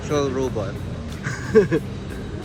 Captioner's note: chuckles